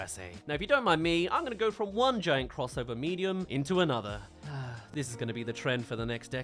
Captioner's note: sigh